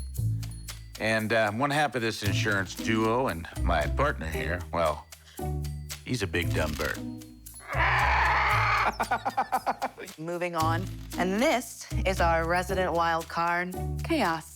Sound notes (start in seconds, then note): 7.6 Buddy laughs; 7.6 bird squawks